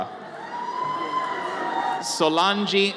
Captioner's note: audience cheers